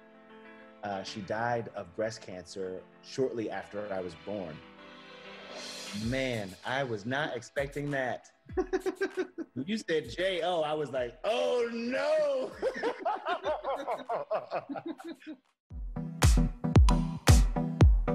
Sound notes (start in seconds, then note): 8.5 chuckles; 14.3 both laugh